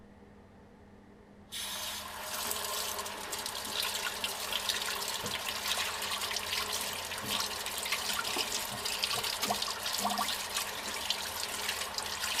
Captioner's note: sink running